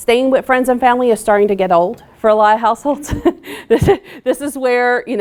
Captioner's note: laughing